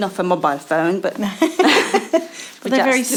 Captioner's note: laughing